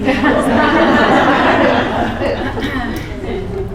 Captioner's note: laughter